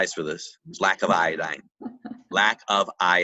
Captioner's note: laughs